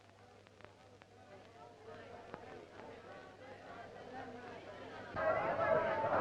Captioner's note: townspeople clamoring